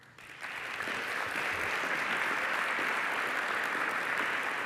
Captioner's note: applause